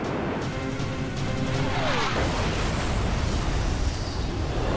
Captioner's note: explosion